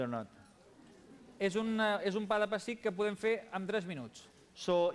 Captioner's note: non-english speech